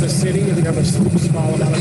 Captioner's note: boat engine roaring